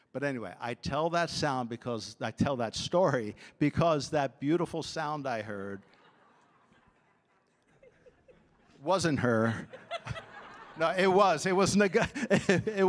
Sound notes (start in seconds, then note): 9.2 audience laughing